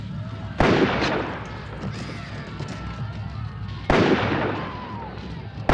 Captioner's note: gun firing